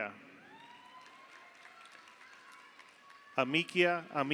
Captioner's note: audience cheers; audience applauds